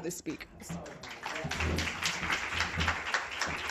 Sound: applause

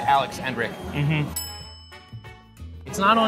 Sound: bell dings

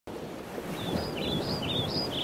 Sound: birds chirping

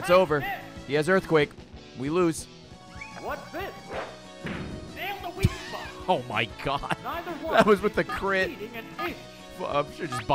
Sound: laughs

